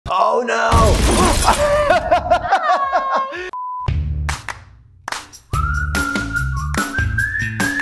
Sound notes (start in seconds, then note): 0.7 explosion; 1.4 laughter; 5.3 upbeat, whistling music